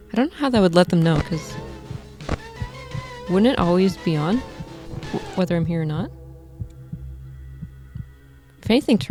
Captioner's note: radio turns on